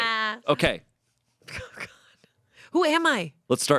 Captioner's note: laughs